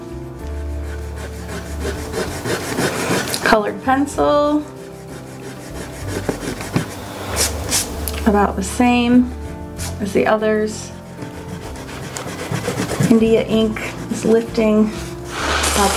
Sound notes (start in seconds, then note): 0.5 eraser rubbing; 7.6 palm rubbing; 11.2 eraser rubbing